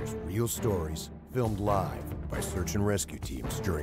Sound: voiceover

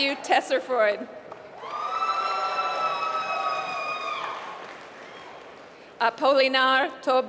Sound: applause

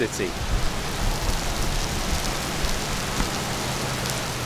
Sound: pouring rain

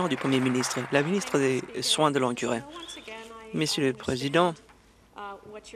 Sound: some Applause

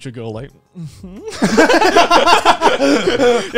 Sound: laughing

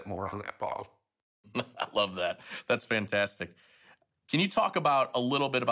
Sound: laughing

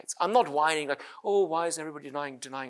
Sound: none

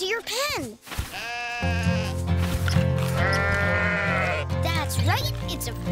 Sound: sheep baaing

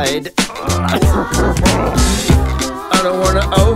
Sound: coughing

